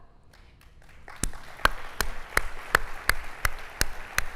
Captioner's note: applauding